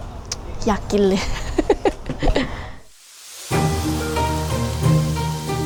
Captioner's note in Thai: เสียงหัวเราะ